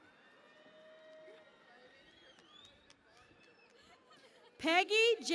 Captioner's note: cheering and Applause